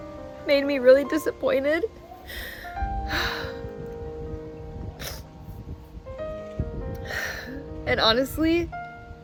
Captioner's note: sigh